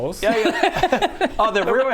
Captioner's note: laughs at animal cruelty